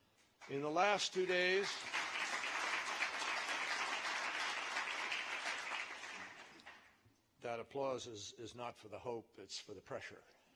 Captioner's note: applause